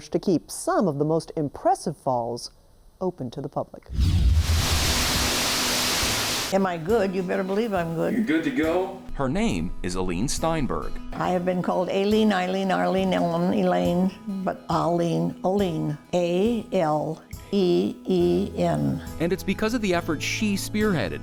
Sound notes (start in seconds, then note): 3.9 water rushing